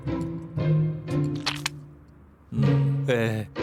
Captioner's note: rip!